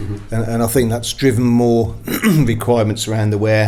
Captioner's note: clears throat